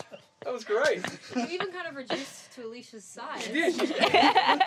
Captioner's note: all Laughing